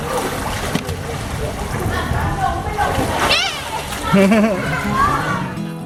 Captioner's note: laughter